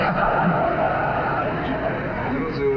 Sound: crowd laughs

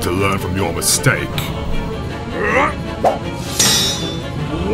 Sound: metal clang; exertion grunt

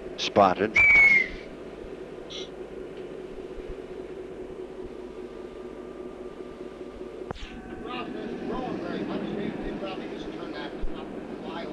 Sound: sound of the train idling

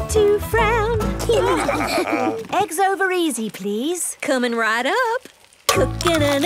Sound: laughing

